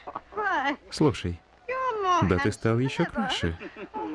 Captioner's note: chuckle